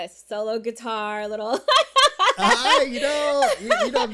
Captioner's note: laughs